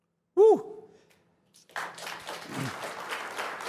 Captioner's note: applause